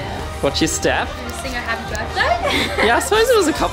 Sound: laughs

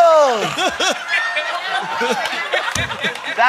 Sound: laughter

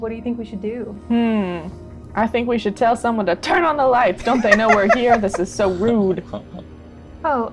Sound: laughter

